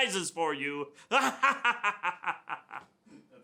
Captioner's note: laughs